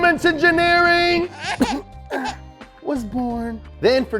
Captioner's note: baby cries